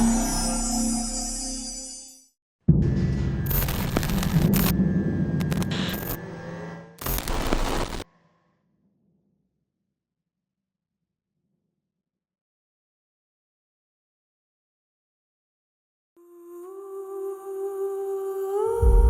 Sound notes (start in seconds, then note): 2.6 logo fizzes; 16.3 singer vocalising; 18.8 gentle music